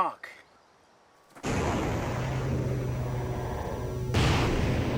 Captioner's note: computerized humming and booms